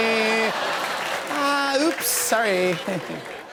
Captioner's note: laughter